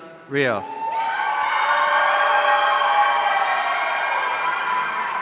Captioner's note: audience cheering